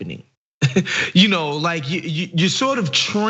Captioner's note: laugh